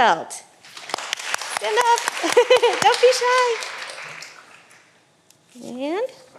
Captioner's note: all applauding